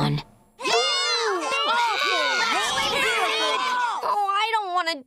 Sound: booing

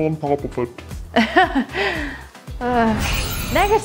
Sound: uncomfortable laugh

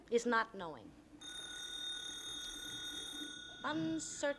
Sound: telephone ring

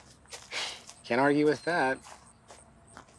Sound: snorts

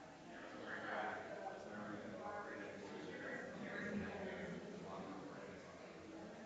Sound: people chattering distantly continues

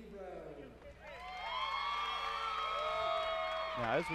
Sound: applause and cheering

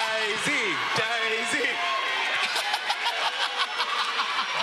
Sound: audience cheering

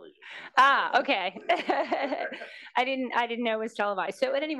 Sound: laugh

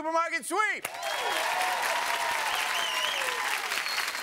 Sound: applause

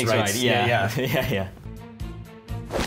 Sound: laughing; tense pensive music continues

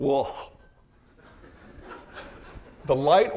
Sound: audience laughing

